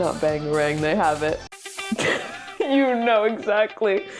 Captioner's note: laughing; laughs